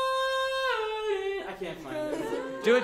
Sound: singing in high octave; students imitate his pitch

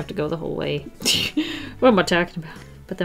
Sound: laughs

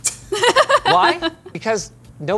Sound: laugh

